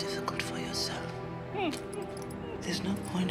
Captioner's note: whimpers